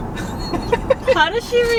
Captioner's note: laughing